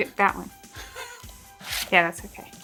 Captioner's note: laughs